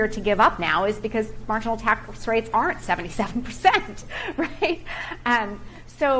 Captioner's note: laughing